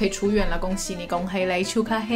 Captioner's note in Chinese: 廣東話